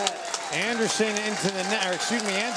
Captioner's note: audience applauding